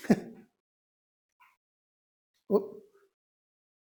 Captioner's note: chuckling